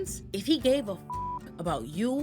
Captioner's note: beep